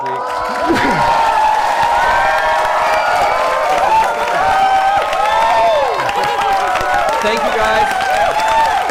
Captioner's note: cheering